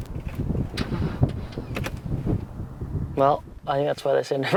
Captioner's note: starter wheezing